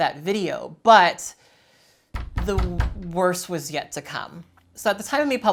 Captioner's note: knocking